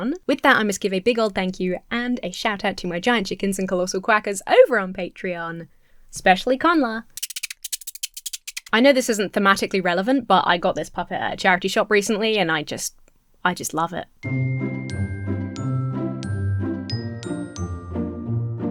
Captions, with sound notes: With that, I must give a big-old thank-you and a shout-out to my Giant Chickens and Colossal Quackers over on Patreon. Especially Connla. (rodent squeaking) I know this isn't thematically relevant, but I got this puppet at a charity shop recently and I just... I just love it. (lighthearted music)